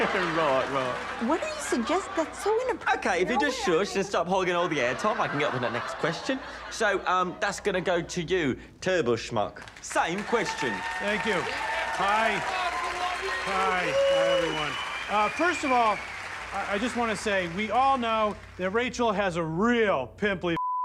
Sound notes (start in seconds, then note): 4.5 audience laughs; 10.4 audience cheers, applauds